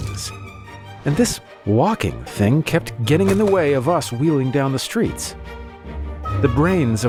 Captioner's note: thud; crash sound; faster music